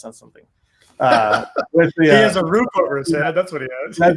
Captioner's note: laughing